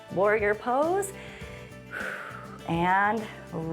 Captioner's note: inhales and exhales